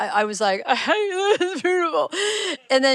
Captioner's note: imitates crying